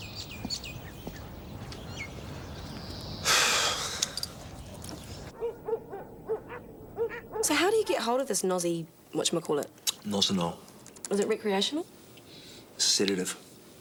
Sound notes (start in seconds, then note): 0.2 birds chirping; 3.2 Dave sighs; 5.2 dogs barking